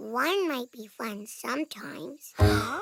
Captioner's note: gasp